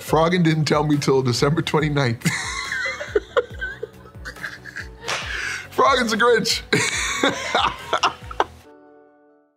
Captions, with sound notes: Froggen didn't tell me ‘til December 29th. [laughing] Froggen's a Grinch!